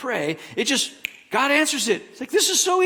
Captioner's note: snaps fingers